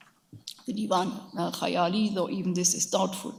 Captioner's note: speaks in a foreign language